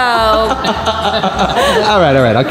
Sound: Rocky laughing

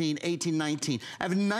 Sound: counting

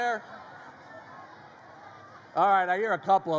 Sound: audience shouts answers

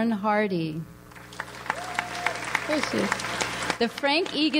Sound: audience applauds

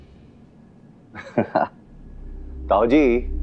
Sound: scoffs

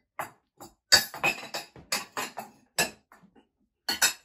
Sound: cups clattering

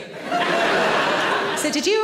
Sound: audience laughs

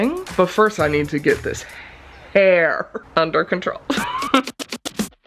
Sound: laughs; upbeat music

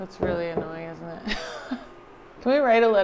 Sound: laughs

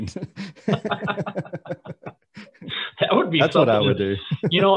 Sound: laughing

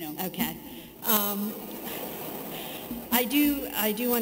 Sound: audience laughing

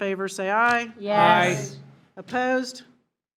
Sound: in Unison

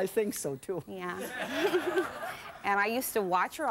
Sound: giggles

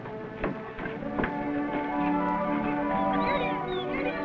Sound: peaceful music; birds chirping

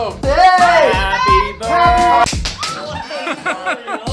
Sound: fire crackers popping; balloons popping

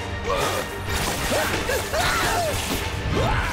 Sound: grunting

